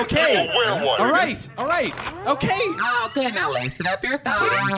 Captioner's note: SFX: Another CLINT racking his blaster